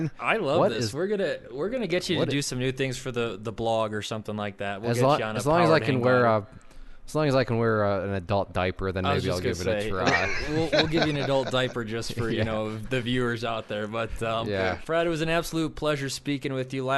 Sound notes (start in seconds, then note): 10.0 laughing